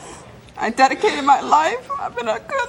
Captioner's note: crying